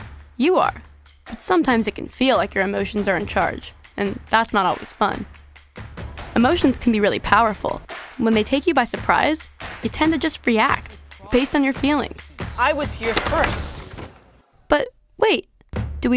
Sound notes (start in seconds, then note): 13.0 clanking noise